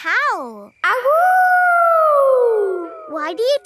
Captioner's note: howling